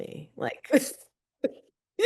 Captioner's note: chuckles